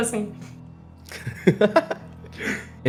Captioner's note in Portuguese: Risos